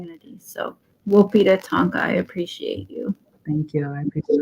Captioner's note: speaking Dakota